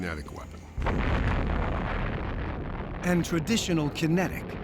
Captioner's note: explosion